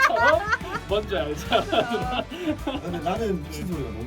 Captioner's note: laughs